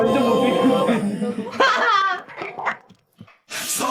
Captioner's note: laughs